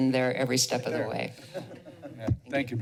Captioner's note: laughter